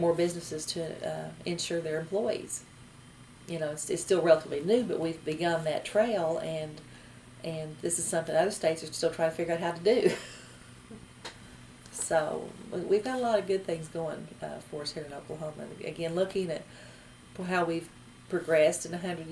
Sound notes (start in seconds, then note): 10.8 laughs